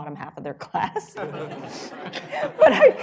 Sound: laughter

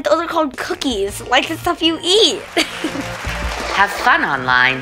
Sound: audience applauds

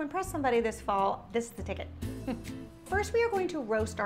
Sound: giggles

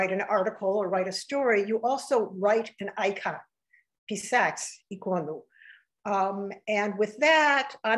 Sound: speaking russian

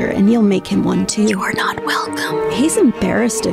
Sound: whispers

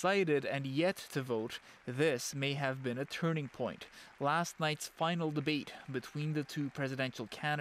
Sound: applause

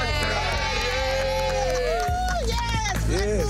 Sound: group applauding

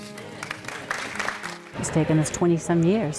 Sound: audience applaud

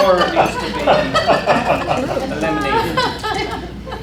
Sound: laughter

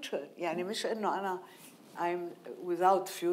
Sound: speaking in foreign language

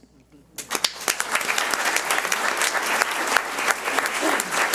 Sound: audience applauds

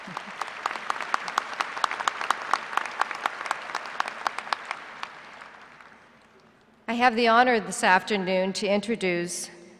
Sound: applause

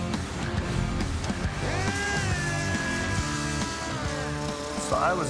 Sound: grinder whirring

